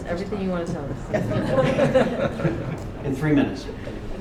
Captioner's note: laughter